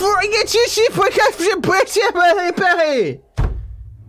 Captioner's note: speaks gibberish